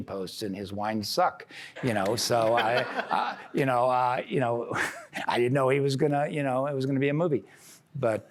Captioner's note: laughter